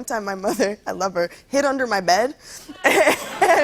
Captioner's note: laughter